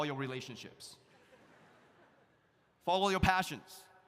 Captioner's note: audience laughs